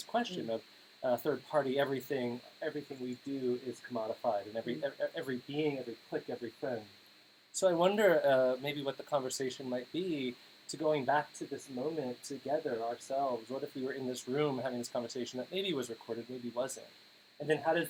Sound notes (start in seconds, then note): none